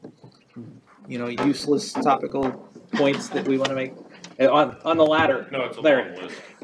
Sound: chuckles

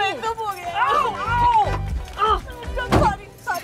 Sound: groaning

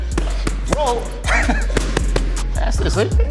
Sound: laughs

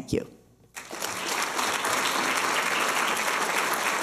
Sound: applause

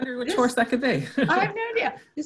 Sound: laughs

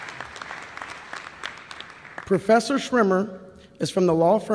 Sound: applause

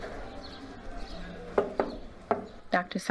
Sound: hospital chatter; knock at door

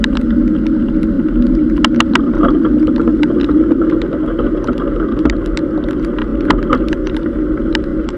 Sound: gear shifting

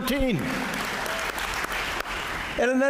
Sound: applause

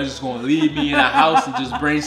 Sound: laughing

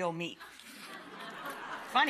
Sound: audience laughter

